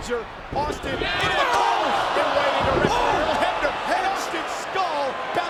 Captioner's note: overlapping chatter